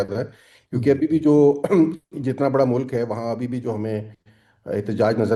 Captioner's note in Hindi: गला साफ करते हुए